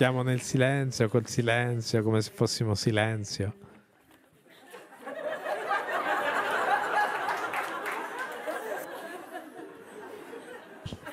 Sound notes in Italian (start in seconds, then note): 4.5 Risate; 6.9 Applauso